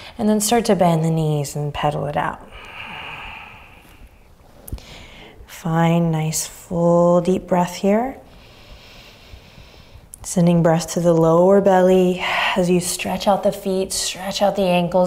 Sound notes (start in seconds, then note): 2.4 exhaling deeply; 8.3 inhaling deeply